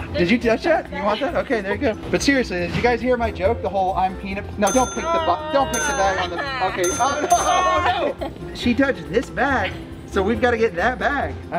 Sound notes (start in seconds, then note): 7.7 laughter